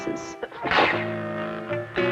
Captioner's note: silly noise